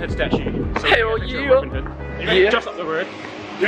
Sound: team clattering

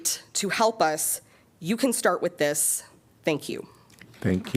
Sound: applause

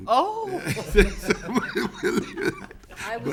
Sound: laughing

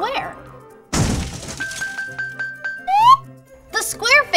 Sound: square crashing

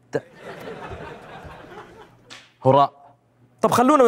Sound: throwing paper

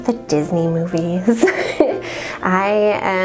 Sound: laughs

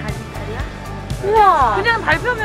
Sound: exclamation

